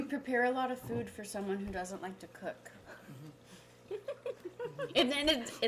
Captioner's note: laughing